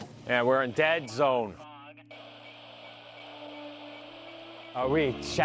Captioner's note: radio static